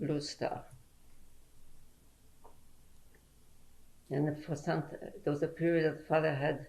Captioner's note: pauses for 3 seconds